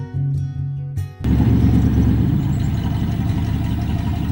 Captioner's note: sound of motor running